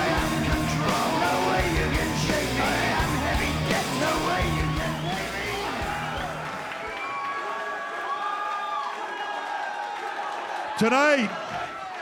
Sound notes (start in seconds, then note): 6.4 crowd cheering